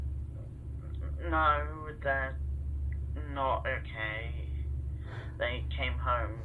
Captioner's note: bella inhales sharply